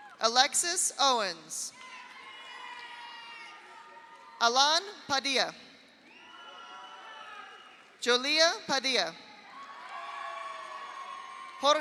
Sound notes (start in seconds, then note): 0.0 audience applauds; 0.0 audience cheers; 1.8 audience applauds; 1.8 audience cheers; 6.0 audience applauds; 6.1 audience cheers; 9.4 audience cheers; 9.5 audience applauds